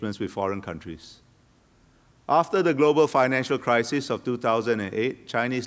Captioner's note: none